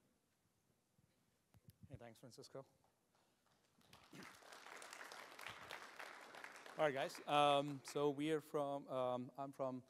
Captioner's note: applause